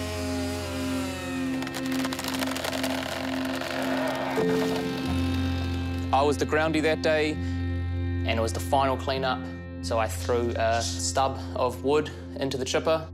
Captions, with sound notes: (TIMBER CREAKS, GROANS) I was the groundie that day, and it was the final clean-up, so I threw a stub of wood into the chipper...